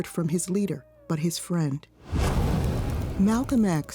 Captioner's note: air whooshing